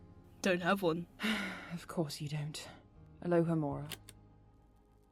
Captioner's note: Regulus sighs